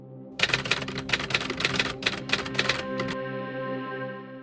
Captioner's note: adventurous music; typing